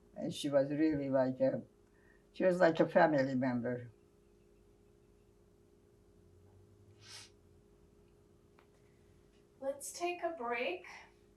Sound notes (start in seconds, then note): 7.0 sniffling